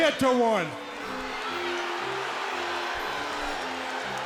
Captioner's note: crowd boos